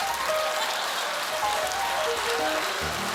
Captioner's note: applause; laughter; piano riff